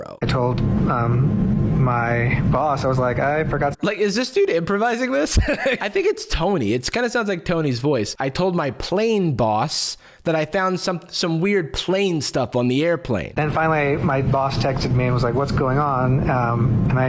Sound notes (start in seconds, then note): 5.2 laughs; 8.1 mimicking accent